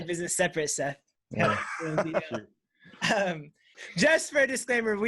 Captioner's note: everyone laughs